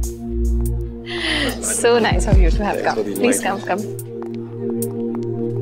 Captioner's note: Gasps